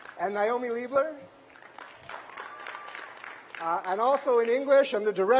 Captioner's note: applause; cheers and applause; applause